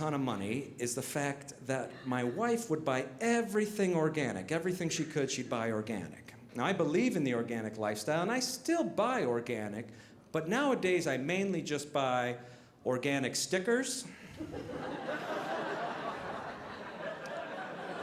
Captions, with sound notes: of money is the fact that my wife would buy everything organic, everything she could, she'd buy organic. Now I believe in the organic lifestyle and I still buy organic, but nowadays I mainly just buy organic stickers. (audience laughing)